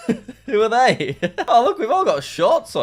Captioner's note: laughs